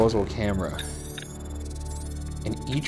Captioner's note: computer bleeping